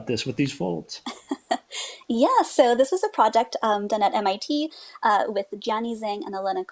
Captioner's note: laughs